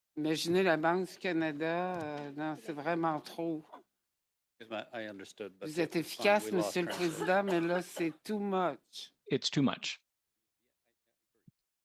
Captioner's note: speaking French